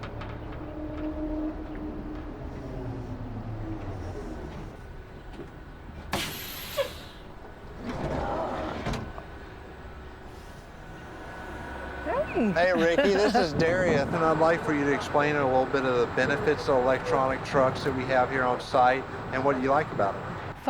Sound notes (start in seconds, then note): 0.2 electric motor roars; 9.2 door rattles; 12.6 chuckles